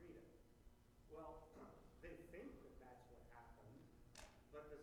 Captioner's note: clears throat